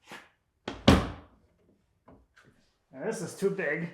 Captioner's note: wood bangs